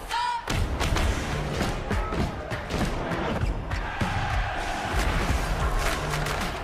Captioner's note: crowd cheering; crowd cheering